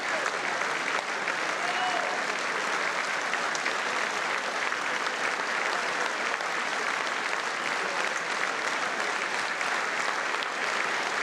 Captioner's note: applause